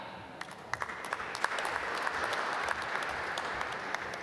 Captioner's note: applause